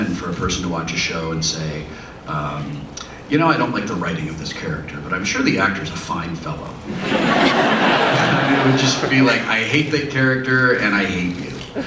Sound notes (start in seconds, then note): 6.9 audience laughs; 11.7 more laughter